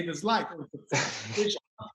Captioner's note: laughing